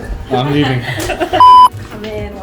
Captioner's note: laughing